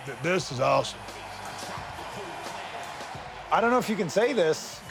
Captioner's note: audience cheers